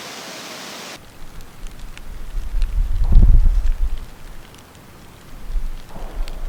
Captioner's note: downpour trickling; tree knocking